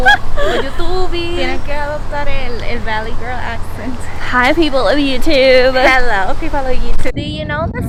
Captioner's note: in Valley Girl accent